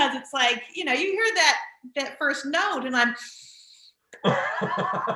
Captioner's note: sighs; laughing